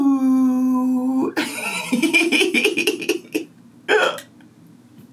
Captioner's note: laughing